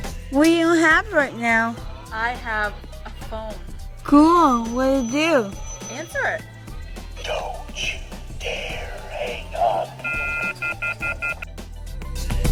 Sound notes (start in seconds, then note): 4.4 phone ringing; 10.0 dialtone